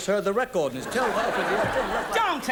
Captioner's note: audience laughs